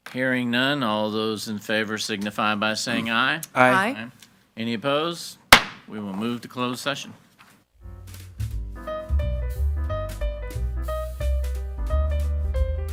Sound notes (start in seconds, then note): 5.6 gavel bangs; 10.1 pleasant music